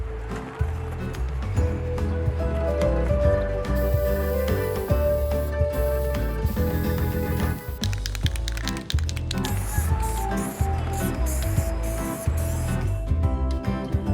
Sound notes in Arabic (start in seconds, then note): 0.1 موسيقى صاخبة; 4.1 رش طلاء; 9.8 رش طلاء